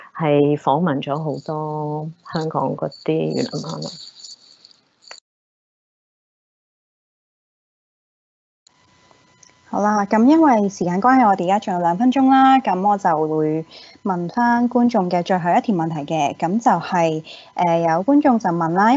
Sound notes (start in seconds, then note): 9.9 Cantonese